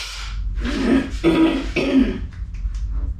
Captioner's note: clears throat